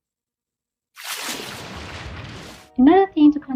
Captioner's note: splash